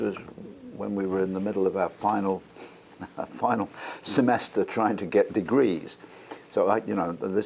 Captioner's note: laugh